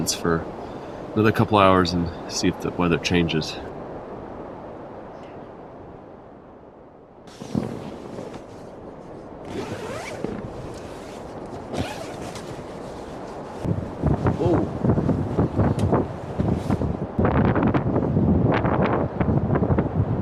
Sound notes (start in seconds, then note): 14.9 wind blowing